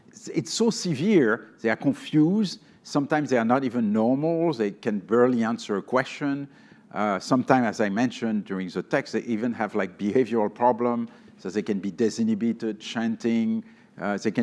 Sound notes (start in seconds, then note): none